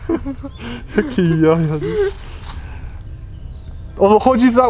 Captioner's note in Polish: śmiech